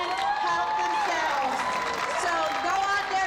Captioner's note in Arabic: هتاف